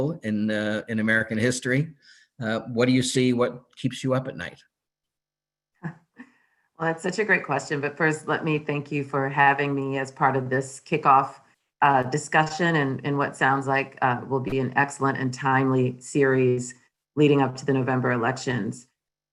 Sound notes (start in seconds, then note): 6.0 chuckling